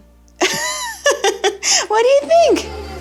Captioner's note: laughs